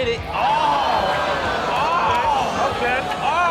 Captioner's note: audience exclaims